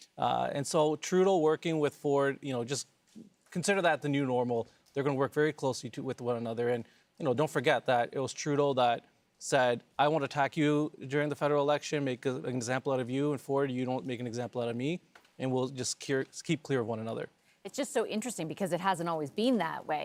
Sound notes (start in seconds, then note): none